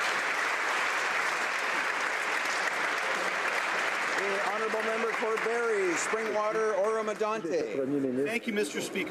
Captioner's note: applause